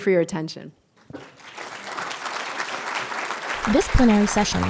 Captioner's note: audience applauding